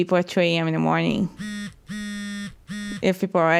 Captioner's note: buzzing